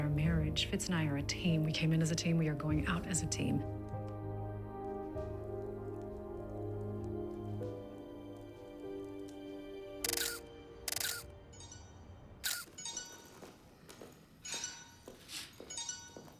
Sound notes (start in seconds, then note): 10.0 <i> camera shutter clicking</i>; 10.8 cellphone ringing